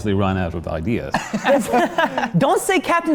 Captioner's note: laughter